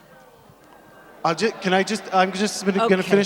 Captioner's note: audience booing